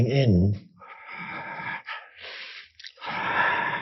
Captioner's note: inhales